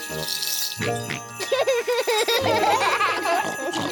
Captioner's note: snorts and giggles; all laugh